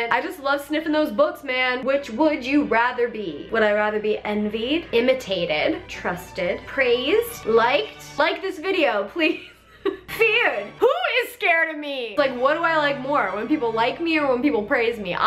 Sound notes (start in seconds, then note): 9.7 laughs